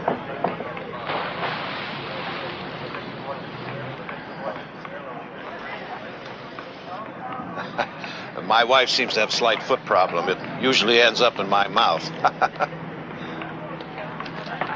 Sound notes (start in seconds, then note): 7.5 Jerry laughs; 12.1 Jerry laughs